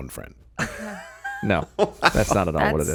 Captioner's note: laughing